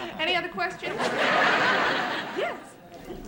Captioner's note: laughter